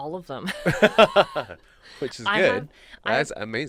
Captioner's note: laughs